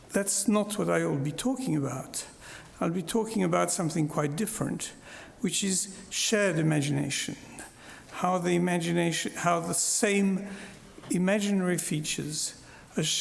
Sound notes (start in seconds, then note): none